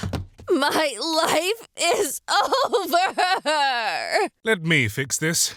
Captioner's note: crying